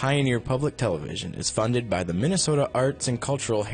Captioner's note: voiceover